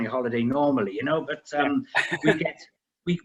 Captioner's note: laughs